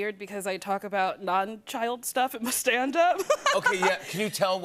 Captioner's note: laughter